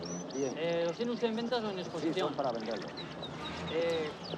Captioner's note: conversation in spanish